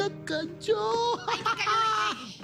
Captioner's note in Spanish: Risas